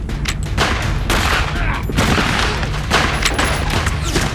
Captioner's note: guns banging